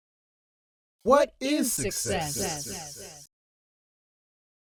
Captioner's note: voices echo, echo, and fade